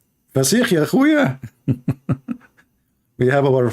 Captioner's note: Ketawa